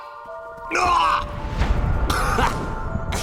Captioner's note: theatrical grunting